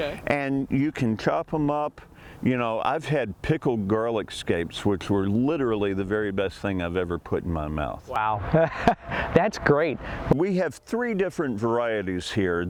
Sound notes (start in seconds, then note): 8.2 laughing